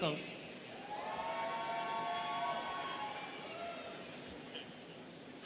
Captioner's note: students cheering